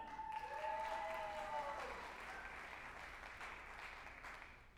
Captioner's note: group applauding and cheering